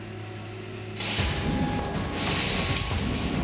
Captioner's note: hissing